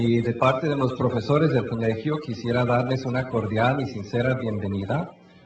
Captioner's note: speaking in foreign language